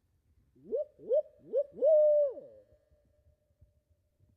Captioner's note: turkey calls